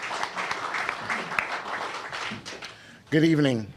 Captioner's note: applause